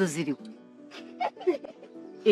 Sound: chuckles

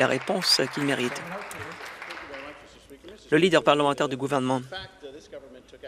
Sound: some Applause

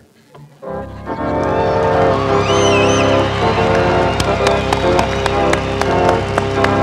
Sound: applause and cheering

